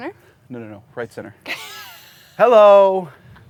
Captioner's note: laughs